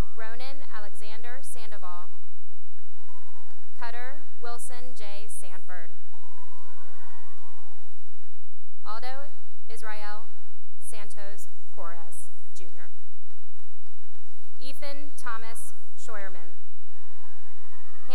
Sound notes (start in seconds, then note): 2.9 cheering and applause; 6.1 cheering and applause; 13.2 applause; 16.8 cheering